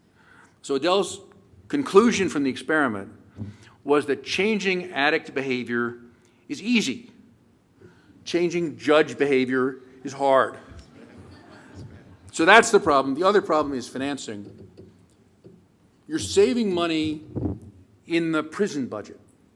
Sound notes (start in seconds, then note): 10.7 laughter